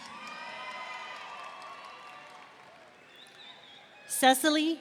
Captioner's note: audience cheering